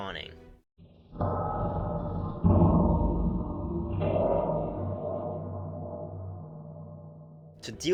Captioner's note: loud, reverberated metallic banging